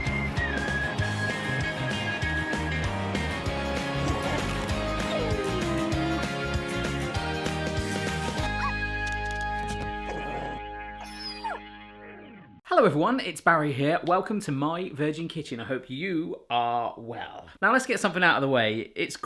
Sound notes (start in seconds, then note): 0.3 cheerful music; 10.1 dog barking